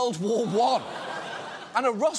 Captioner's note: audience laughs